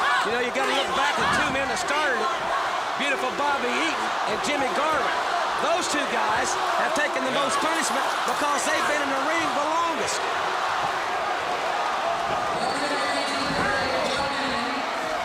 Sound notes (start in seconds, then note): 8.0 crowd cheering